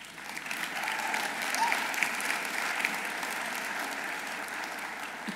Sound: audience applauding

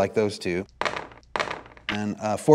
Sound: dice rolls

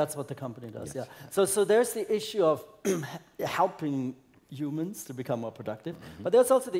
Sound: cough

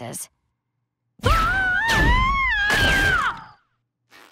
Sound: screaming

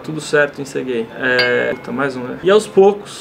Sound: ding!

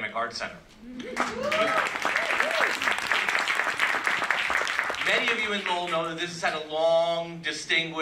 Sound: applause

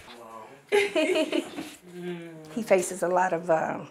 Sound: laughs

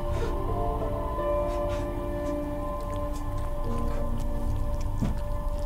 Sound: horrified sobbing

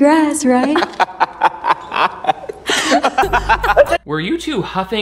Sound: both laughing

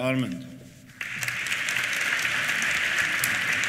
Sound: applause

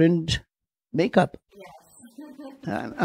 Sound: laughs

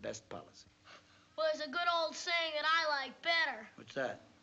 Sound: scoffs

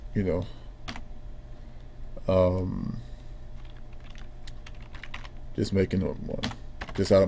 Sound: typing

